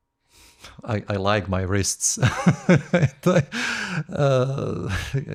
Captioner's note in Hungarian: nevetés